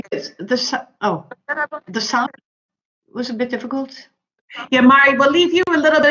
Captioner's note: audio distorts